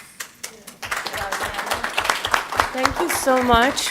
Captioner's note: applause